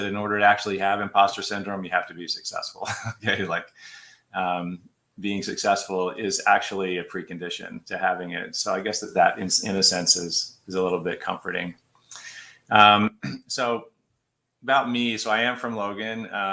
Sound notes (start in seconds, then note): 2.8 laughter